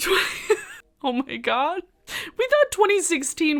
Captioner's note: laughs